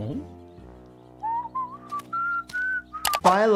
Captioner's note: Lumpy whistling